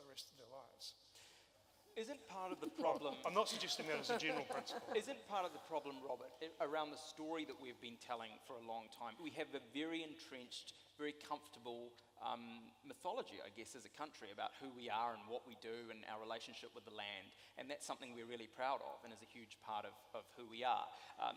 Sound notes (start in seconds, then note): 2.5 laughter